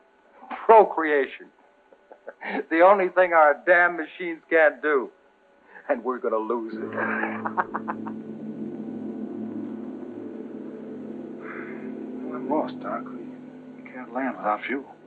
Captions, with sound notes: Procreation! The only thing our damn machines can't do, and we're gonna lose it. [laughs] [somber music] Well, at most, Doc, we, we can't land without fuel.